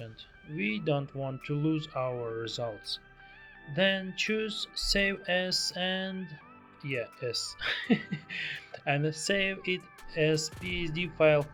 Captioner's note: laughing